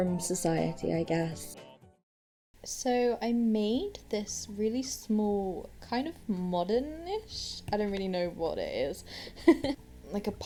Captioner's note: giggles